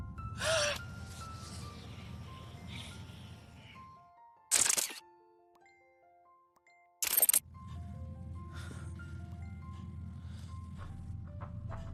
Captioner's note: gasps loudly